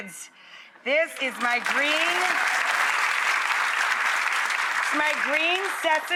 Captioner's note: audience applauds